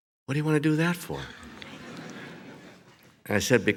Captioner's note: audience laughs